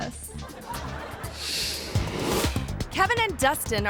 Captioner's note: audience laughing